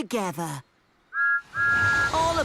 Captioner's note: thomas whistles